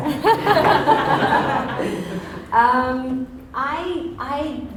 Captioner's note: Jessica laughs